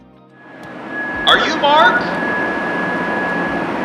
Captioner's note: machine beeping